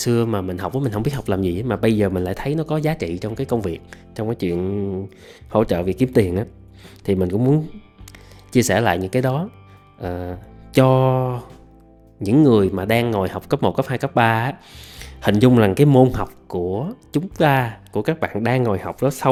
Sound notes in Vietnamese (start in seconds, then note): 8.1 khịt mũi